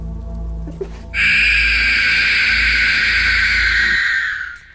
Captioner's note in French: cri strident